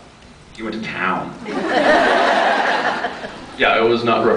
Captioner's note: laughs